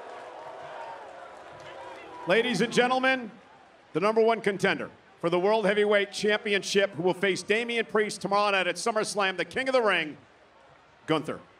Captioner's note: crowd clamoring